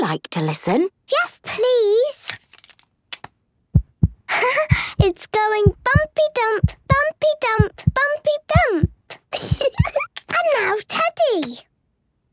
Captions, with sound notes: - Would you like to listen? - Yes, please! (heart beating) Haha! It's going bumpy-dump, bumpy-dump, bumpy-dump! (giggles) And now Teddy!